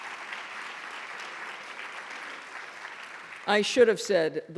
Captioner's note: applause